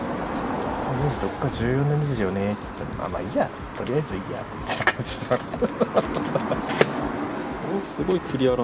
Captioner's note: laughs